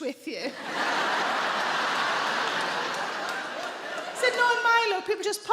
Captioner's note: audience laughing